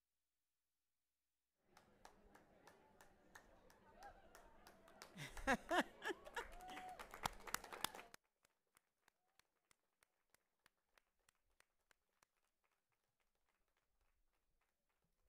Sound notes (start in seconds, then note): 5.1 host laughing; 8.0 audience applauding and cheering